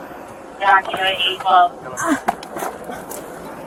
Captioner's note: radio chatter